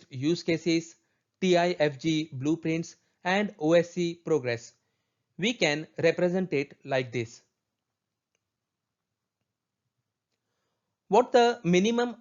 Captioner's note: click